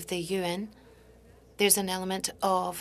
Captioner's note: speaking French